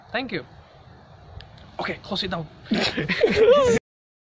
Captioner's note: laughs